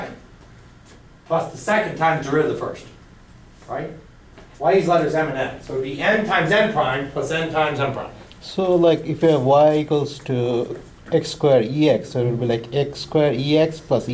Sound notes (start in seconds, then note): 9.0 voiceover